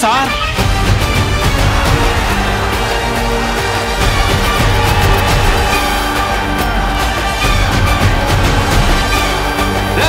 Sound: shouts

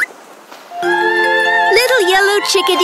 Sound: vocalizes

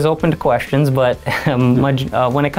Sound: chuckles

